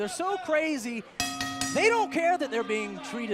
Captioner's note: bell ringing